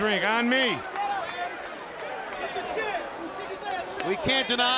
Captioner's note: crowd yelling